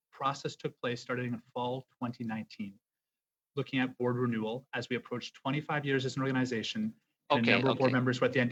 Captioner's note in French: voix de l'interprète